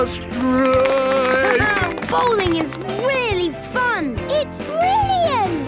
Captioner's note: clapping, laughing